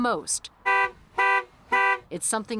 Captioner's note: horn honks